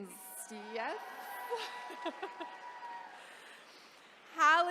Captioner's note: chuckles